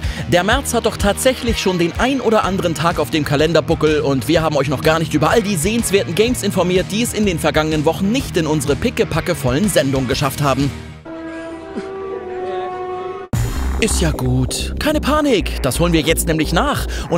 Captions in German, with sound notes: Der März hat schon den ein oder anderen Tag auf dem Kalenderbuckel und wir haben euch noch nicht über all die sehenswerten Games informiert, die es in den letzten Wochen nicht in unsere pickepackevollen Sendungen geschafft haben. *Schluchzen* Ist ja gut, keine Panik, das holen wir jetzt nach